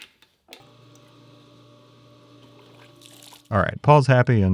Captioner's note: machinery whirring